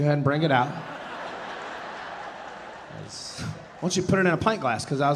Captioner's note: audience laughing